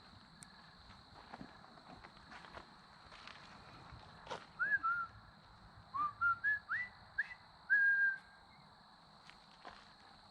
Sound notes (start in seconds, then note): 3.3 whistling